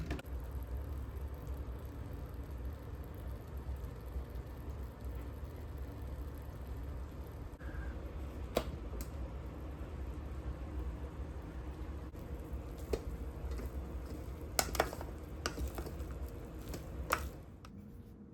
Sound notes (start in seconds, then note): 4.8 simmer asmr..?